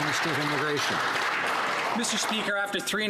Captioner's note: some Applause